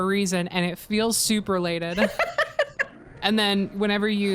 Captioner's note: laughs